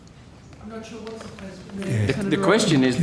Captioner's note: mummers